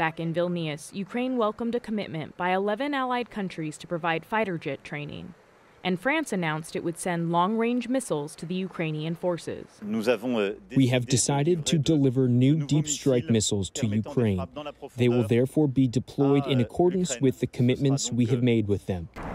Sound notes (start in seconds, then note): 10.7 through translator